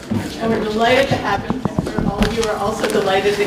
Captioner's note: background shuffling sounds